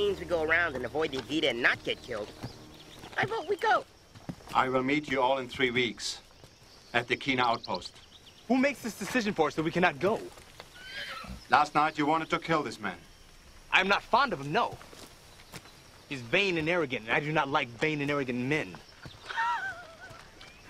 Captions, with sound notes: - If that means we go around and avoid the Agita and not get killed, I vote we go. - I'll meet you all in three weeks at the Keena outpost. - Who makes this decision for us that we cannot go? (horse whinnies) - Last night, you wanted to kill this man. - I'm not fond of him, no. He's vain and arrogant and I do not like vain and arrogant men. (laughing)